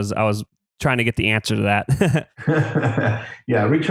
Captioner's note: laughs